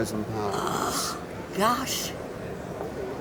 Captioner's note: gasps